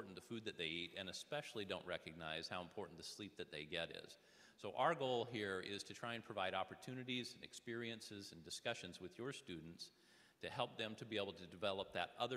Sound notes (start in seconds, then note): none